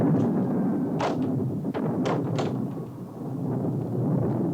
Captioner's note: door closes